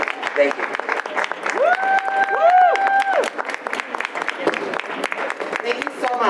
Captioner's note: audience applause